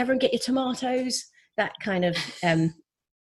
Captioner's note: laughs